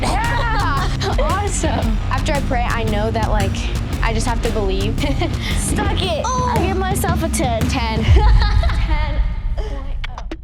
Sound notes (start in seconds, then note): 8.0 laughs